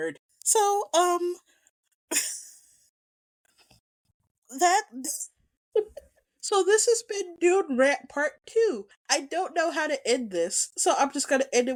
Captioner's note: giggles